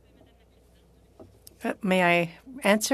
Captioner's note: speaking French